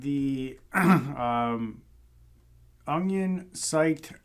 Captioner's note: clears throat